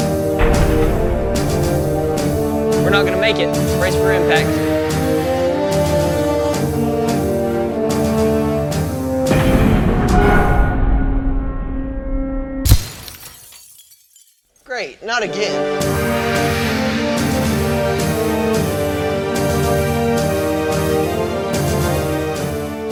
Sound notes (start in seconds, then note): 0.1 instrumental music; 5.2 instrumental music; 12.9 explosion; 16.6 instrumental music